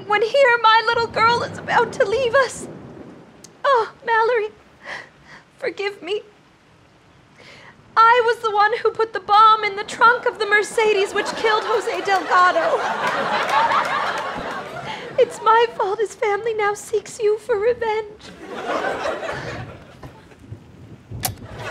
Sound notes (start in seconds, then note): 13.2 audience laughter